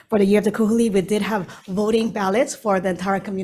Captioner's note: speaking in foreign language